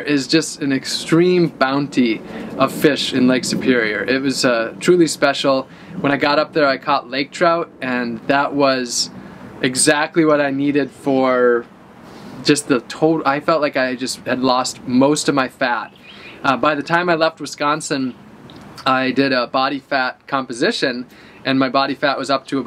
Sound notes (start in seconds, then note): none